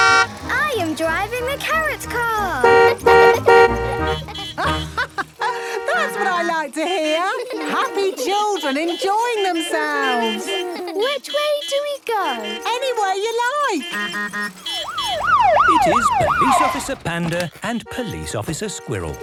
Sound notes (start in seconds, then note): 2.6 honking; 3.4 horns honking; 4.5 laughing; 9.9 laughter; 13.5 honking, siren wailing